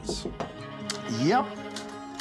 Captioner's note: knocking on door